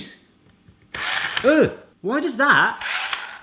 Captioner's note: zapping